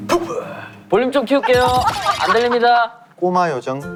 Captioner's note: laughing out loud